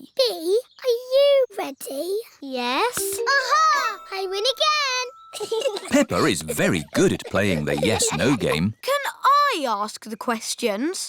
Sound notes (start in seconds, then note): 5.3 chuckles